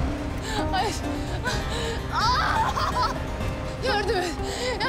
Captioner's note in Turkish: Bağırıyor